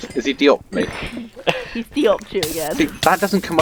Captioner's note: laughing